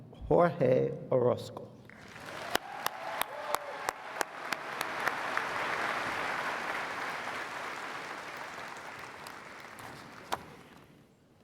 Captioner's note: applause